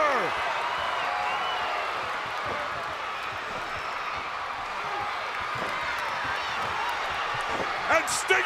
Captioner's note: crowd cheering